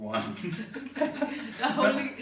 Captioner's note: laughter